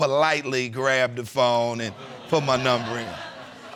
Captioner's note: audience laughing